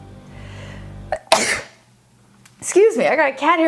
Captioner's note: sneezing